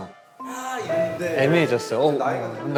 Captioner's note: ding-dong